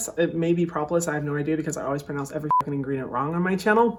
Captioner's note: beep